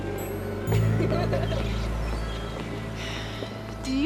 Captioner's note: girls laughing